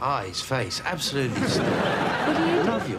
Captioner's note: audience laughs